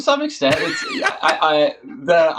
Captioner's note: laughs